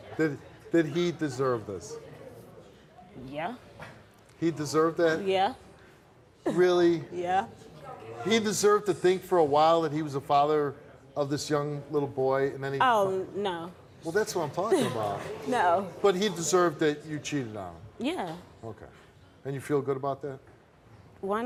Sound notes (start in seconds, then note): 14.7 laughs